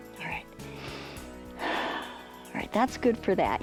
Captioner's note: inhales and exhales